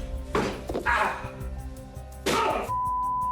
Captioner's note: Johnny groaning